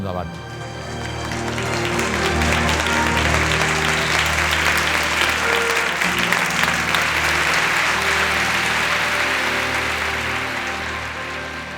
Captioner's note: applause